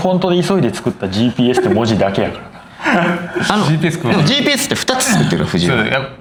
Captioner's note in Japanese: 笑い